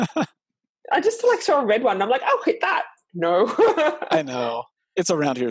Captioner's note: laughing